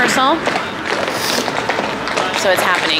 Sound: person sniffles

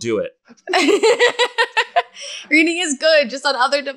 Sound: laughs

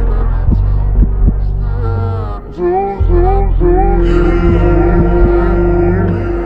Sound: echoes

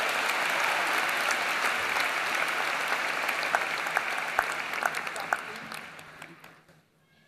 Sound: applause

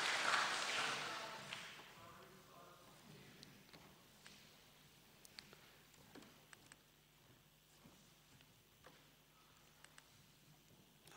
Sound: applause

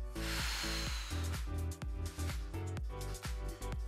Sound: exhales

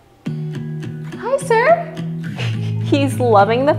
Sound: giggles

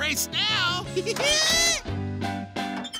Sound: giggling; laughing

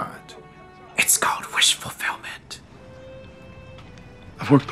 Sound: whispering

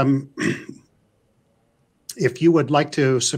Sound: clears throat

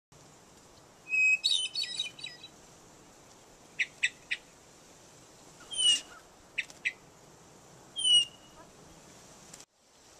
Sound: birds chirping

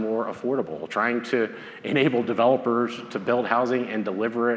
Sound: laughs

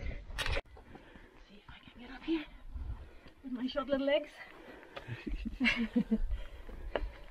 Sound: laughing

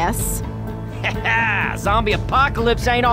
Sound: laughs

